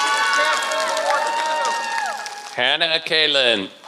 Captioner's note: applause